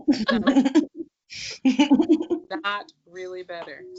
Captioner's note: laughing